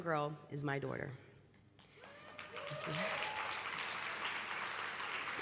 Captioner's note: applause